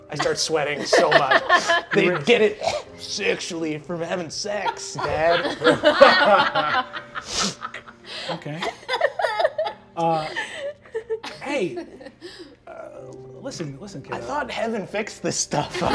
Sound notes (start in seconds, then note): 4.4 all laughing; 8.4 players laughing